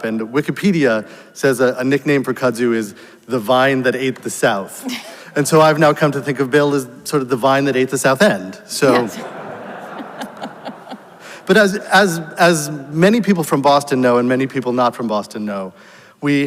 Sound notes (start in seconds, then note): 4.8 laughs; 8.8 audience laughs